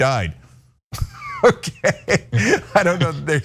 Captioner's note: laugh